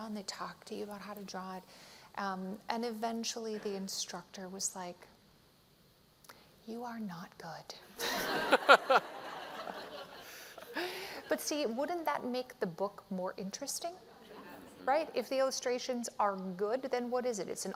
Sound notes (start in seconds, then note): 8.0 laughter